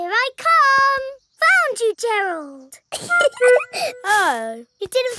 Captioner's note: giggling